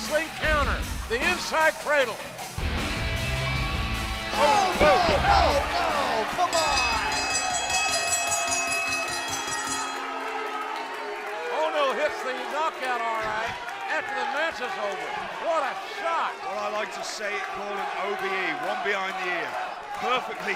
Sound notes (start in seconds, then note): 8.7 bell ringing